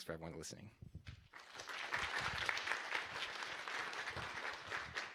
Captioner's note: applause